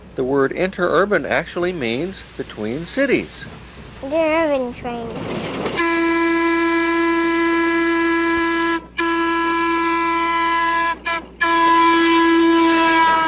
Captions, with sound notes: The word interurban actually means between cities. - Interurban train. (train hoots)